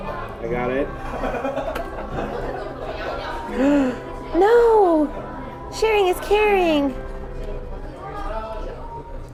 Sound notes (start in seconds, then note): 3.5 gasp